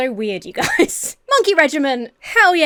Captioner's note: Emma chuckles